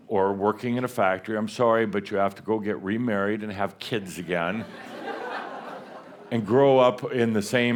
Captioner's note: laughter